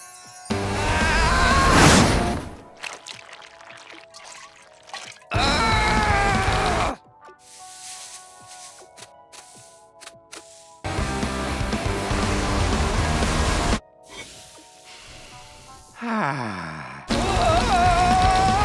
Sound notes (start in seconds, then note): 0.7 screaming; 6.2 grunting; 15.9 sighing; 16.0 groaning